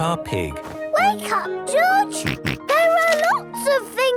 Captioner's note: George snorts